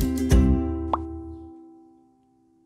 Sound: plop

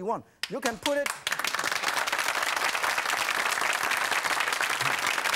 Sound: audience clapping

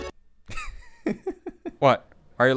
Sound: chuckle

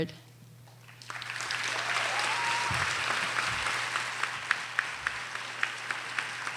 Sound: audience cheers and applauds

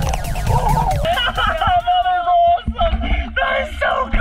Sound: laughs

